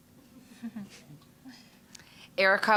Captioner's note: scattered chuckling